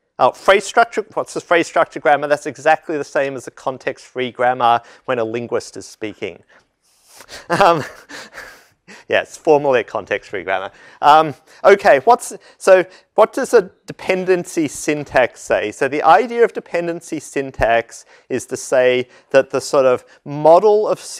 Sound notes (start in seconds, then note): 7.2 laugh